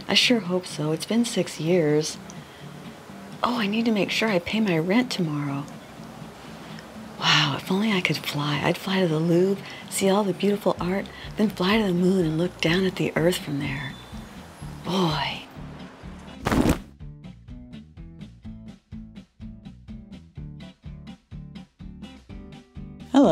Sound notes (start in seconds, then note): 16.4 impact sound